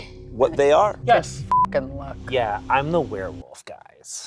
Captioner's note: beep